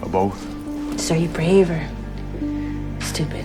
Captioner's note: voiceover